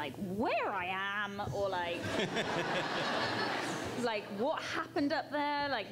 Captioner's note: crowd laughs